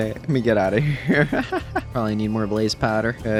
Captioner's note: laughs